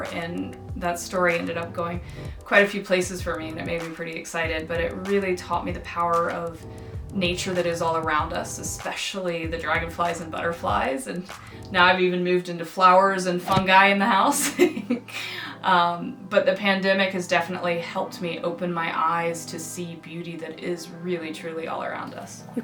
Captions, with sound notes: And that story ended up going quite a few places for me, and it made me pretty excited, but it really taught me the power of nature that is all around us, especially the dragonflies and butterflies, and now I've even moved into flowers and fungi in the house [laughs] But the pandemic has definitely helped me open my eyes to see beauty that is really truly all around us.